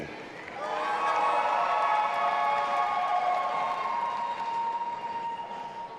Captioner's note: audience applauding and cheering